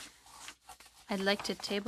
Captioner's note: speaking French